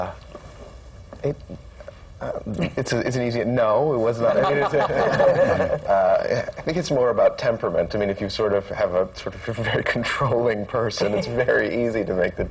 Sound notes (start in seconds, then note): 1.5 laughs; 4.2 laughter; 10.6 laughs